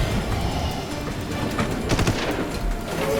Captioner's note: gunshot